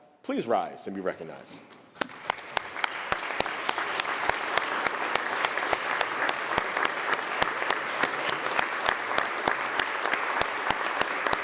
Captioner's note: applause